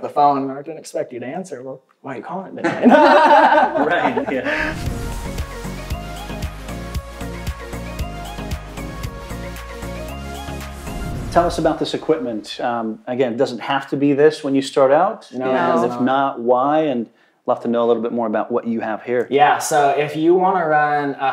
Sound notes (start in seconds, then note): 2.6 laughs; 3.7 upbeat electronic music